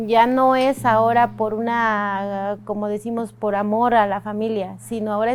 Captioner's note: speaking foreign language